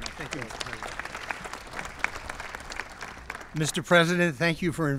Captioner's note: applause